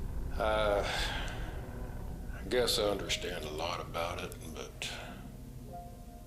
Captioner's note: sighing